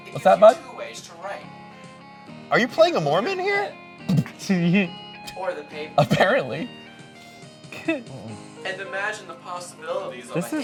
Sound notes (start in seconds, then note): 4.4 laughing